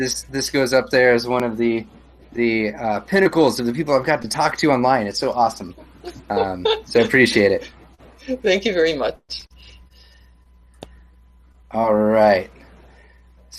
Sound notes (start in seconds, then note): 5.6 laughs